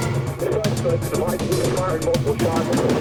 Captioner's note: police chatter